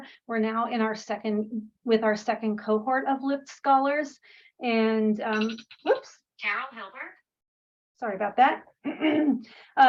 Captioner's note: phone rings